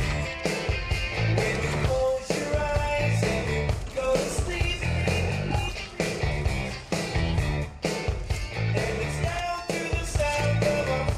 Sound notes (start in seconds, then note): 4.4 echoing